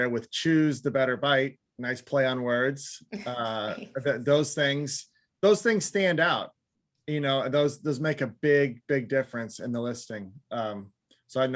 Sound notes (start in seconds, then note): 3.5 chuckles